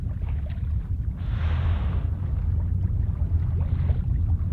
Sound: water splashing

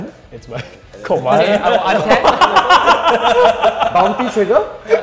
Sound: players laughing

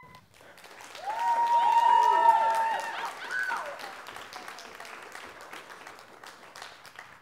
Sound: applause

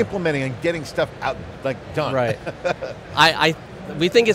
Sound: chuckles

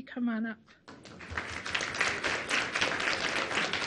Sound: applause

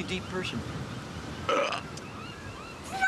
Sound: burp

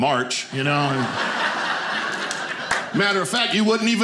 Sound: audience laughing

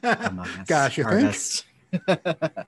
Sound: laughter

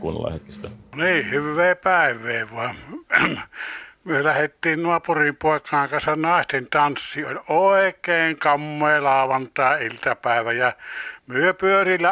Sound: the man tells some story in a very strong and distinct Finnish dialect

